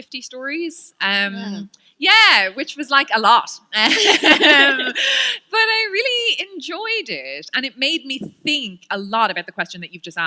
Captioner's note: laughter